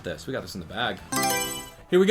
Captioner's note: Mario Selection Sound